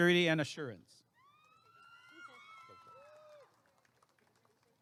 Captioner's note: applause and cheering